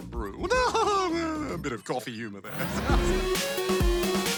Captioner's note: laughs